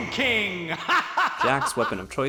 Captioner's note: laughs maniacally over the child he brutally Messatsued